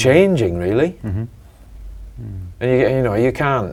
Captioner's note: mm-Hm